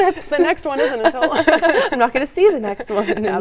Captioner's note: laughs